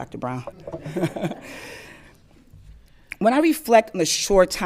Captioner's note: all laughing